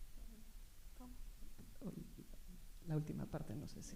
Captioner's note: speaking spanish